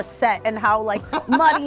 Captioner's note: laughing